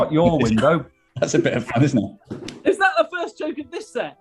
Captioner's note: laughing